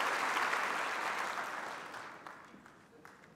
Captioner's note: applause